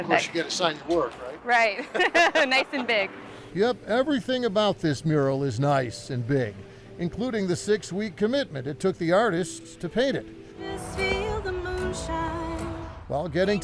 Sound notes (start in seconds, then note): 1.8 laughing